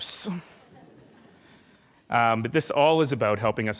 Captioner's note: laughing